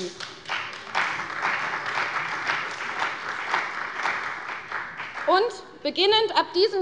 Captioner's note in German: Beifall bei der CDU und dem BÜNDNIS 90/DIE GRÜNEN